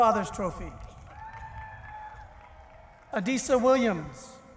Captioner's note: cheering